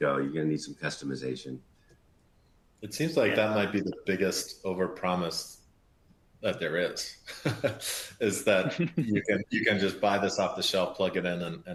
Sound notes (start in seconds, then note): 7.2 laughs